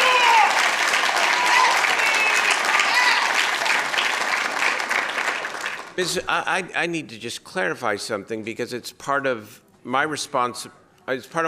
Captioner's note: applause